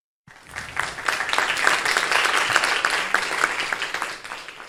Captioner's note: audience applause